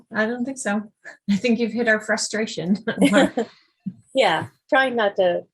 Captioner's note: chuckles